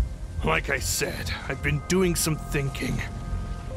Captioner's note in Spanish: none